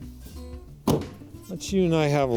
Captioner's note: car truck closes